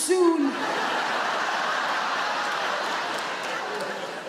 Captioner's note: audience laugh